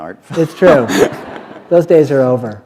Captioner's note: laughter